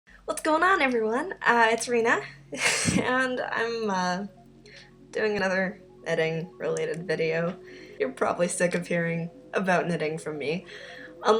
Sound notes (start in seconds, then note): 2.6 laughs